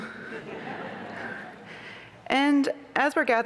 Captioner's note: laughter